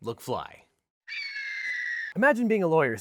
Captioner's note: eagle screeches